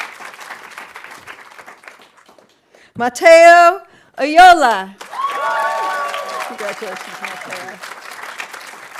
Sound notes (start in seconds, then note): 5.0 audience applauding